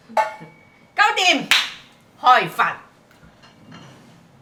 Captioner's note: Cantonese